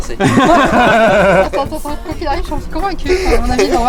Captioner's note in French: rires